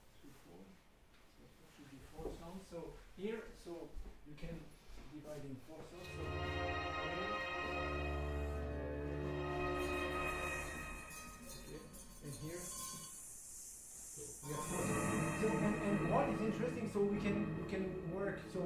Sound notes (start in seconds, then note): 7.4 buzzing, humming; 12.6 hissing noise